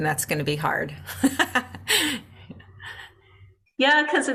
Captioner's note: laughs